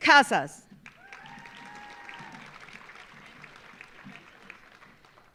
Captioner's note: audience applauding